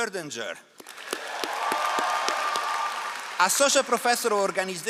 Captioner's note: all applauding